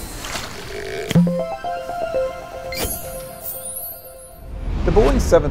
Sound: playful chime

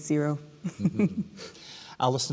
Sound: laughing

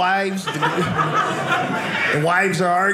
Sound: audience laughing

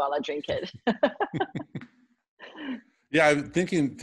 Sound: laughter

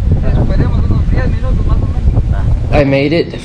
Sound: continues speaking in Spanish

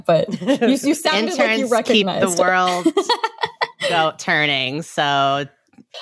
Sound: laughs

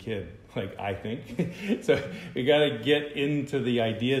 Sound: laughter

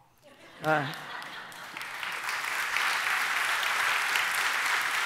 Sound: audience laughing, applauding

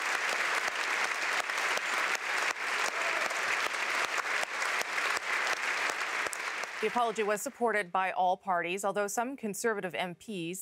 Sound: applause

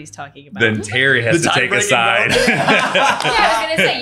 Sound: laughs

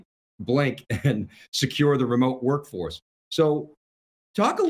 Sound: chuckles lightly

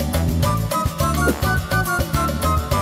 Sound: whooshes; lively tropical music

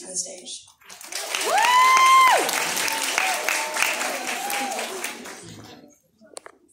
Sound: clapping

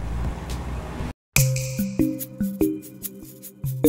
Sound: snap

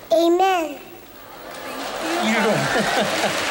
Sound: applause and cheering

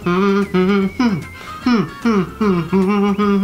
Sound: more humming

